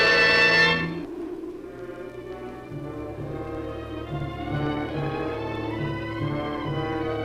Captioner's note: suspenseful orchestral music; muffled wind howls